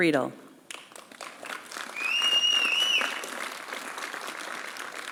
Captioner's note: applause